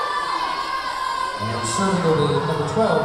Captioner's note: yelling